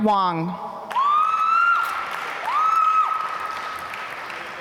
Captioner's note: applause